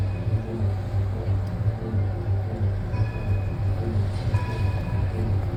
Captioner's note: tram bell tolls